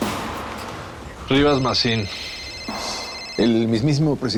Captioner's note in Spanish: Sigue sonando el celular